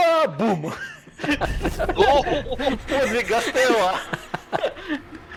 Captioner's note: laugh